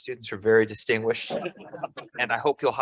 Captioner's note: laughs